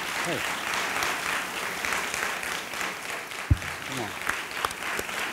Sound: audience applauding

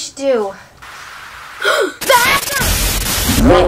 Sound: static sound

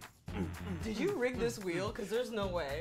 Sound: grunts

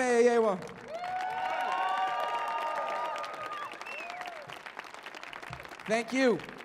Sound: audience cheers and applauds

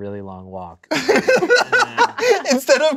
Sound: laughing

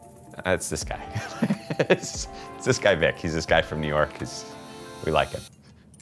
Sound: laughs

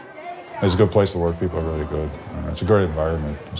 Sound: voiceover

